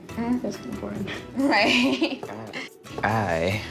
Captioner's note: chuckles